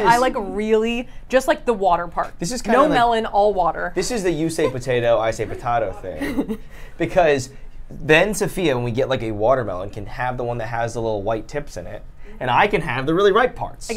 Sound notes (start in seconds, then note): 5.3 chucles